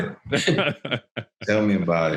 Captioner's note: laughing